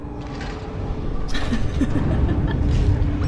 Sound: nervous laughter

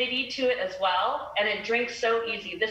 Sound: talking fast

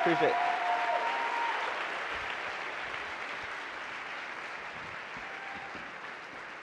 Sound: audience clapping and cheering

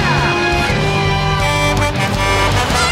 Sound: Blaze honking; speaking in Gormy language

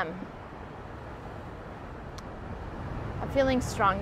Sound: intense waves crashing

